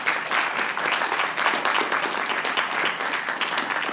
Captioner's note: applause